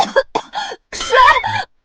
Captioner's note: coughs